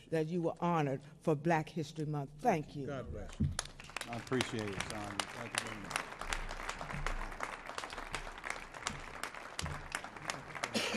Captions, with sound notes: - That you were honored for Black History Month. Thank you. - God bless you. I appreciate you, Sandra. [audience clapping] Thank you very much.